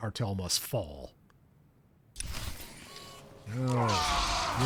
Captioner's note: speaking foreign language